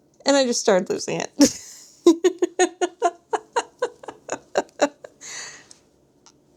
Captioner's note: laughter